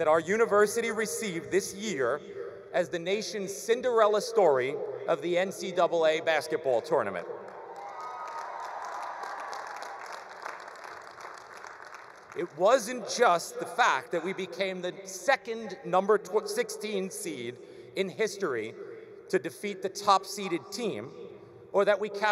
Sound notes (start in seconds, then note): 7.6 all cheering; 7.7 all applauding